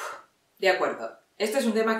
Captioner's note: takes a deep breath